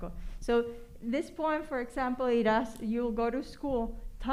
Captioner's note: spanish